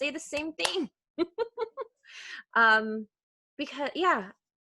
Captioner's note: laughing